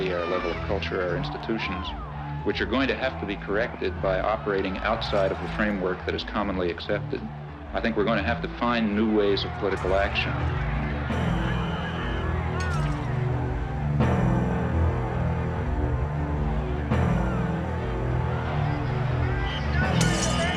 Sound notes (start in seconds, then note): 11.4 crowd clamoring; 14.2 somber music; 17.6 crowd clamoring